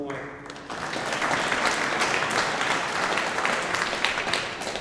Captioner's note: audience applauding